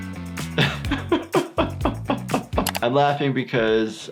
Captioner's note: doctor laughs